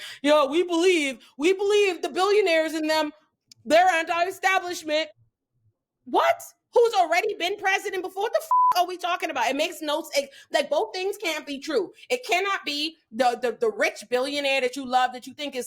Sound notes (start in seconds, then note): 8.5 beep